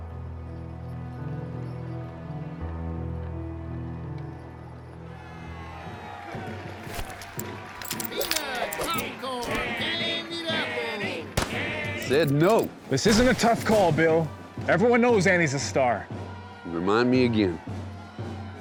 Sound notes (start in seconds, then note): 6.1 cheering; 11.1 chanting